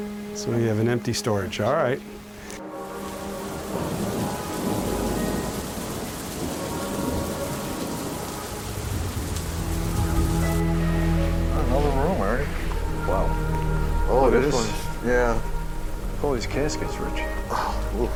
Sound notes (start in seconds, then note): 3.2 rain splashes; 3.4 muffled thunder claps